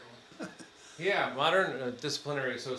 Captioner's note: attendee chuckles